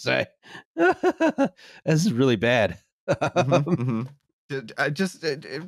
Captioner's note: laughs